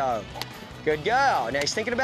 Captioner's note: stick cracking